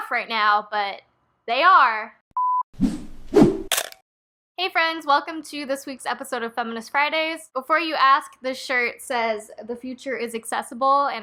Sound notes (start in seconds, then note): 2.4 beep swoosh swish crunch